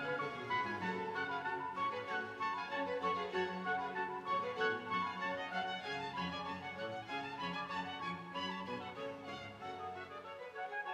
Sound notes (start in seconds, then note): none